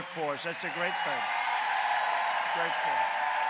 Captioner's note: applause